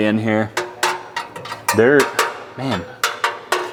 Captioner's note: metal clanking